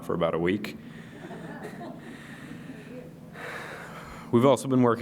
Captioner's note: laughter